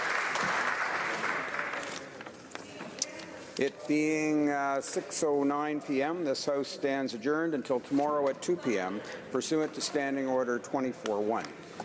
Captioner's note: applause